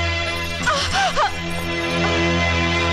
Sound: gasps

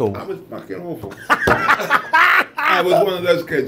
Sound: laughs

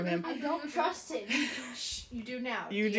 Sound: laughter

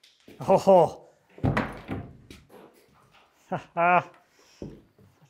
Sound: laughs

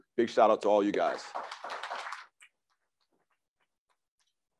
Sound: crowd applauds

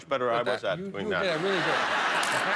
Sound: laughter

